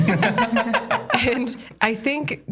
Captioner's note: laugh